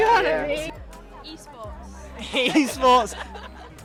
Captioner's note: laughing